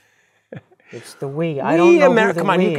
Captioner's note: laugh